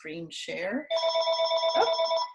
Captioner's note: phone ringing